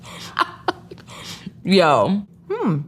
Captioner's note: chuckles